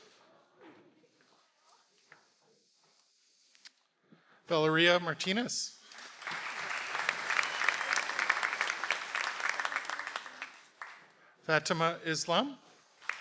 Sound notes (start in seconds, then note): 5.9 audience applauds